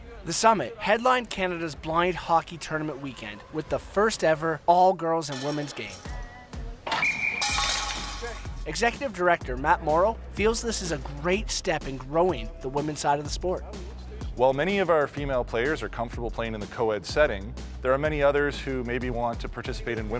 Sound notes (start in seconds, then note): 6.9 whistle; 6.9 puck rattling